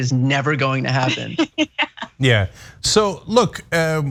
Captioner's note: laugh